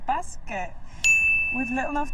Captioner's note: ding